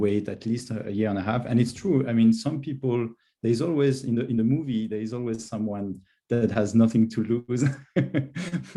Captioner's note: laughs